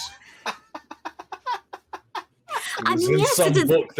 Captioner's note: group laughs